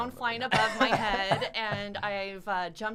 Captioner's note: laughs